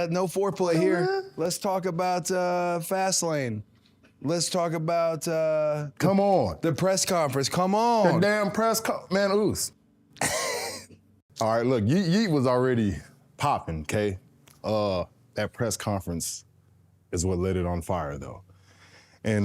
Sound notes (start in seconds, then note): 10.2 Cody laughs